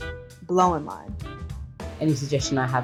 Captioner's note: voiceover